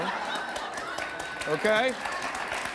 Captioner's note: audience laughs